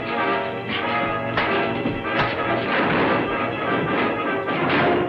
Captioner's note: punches landing